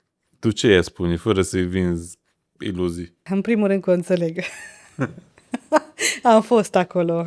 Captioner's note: laughter